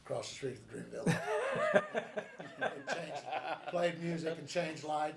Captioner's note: group laughs